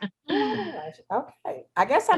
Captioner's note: laughs